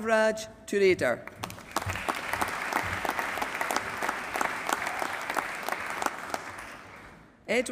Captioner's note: applause